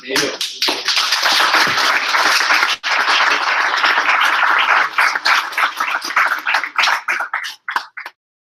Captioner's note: applause